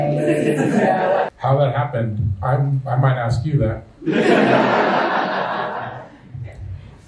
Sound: laughter; laughter

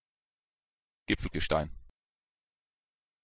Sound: fast Pronunciation

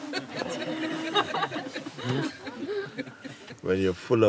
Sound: Lachen

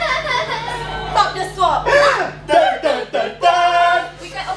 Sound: dramatic gasp

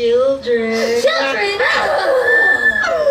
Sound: growls

